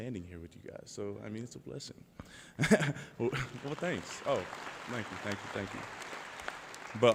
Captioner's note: laughter; applause